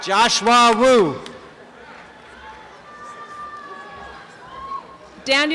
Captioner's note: applause and cheering